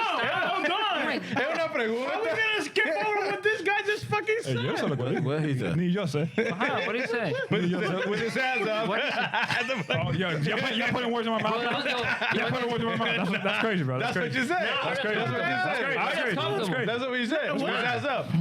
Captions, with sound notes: no, no. (Speaking In Foreign Language) How are we gonna skip over with this guy's fucking set? (Speaking In Foreign Language) What did he say? (Laughing) (Speaking In Foreign Language) That's crazy, bro. That's what you said. That's what you said. That's what you said. That's what we said. What is that stuff?